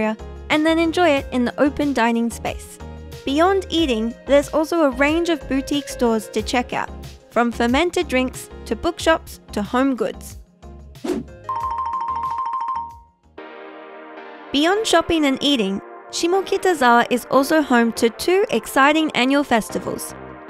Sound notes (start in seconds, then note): 11.0 air whooshing; 11.5 bell dings; 13.1 light music